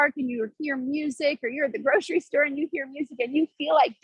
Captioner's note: laughs